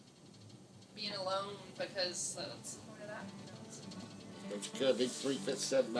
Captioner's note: speaks faintly